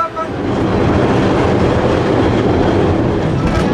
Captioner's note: tram noise